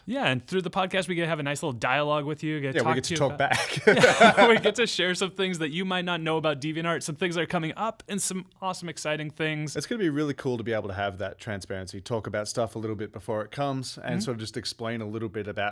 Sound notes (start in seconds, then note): 3.4 laughing